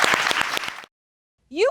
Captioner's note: audience applauding